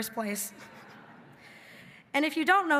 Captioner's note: everybody laughing